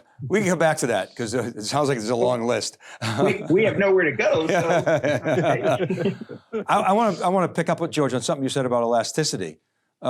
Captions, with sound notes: We'll get back to that 'cause it sounds like there's a long list. (laughs) >> We have nowhere to go.(laughs) I want to pick up with George on something you said about elasticity.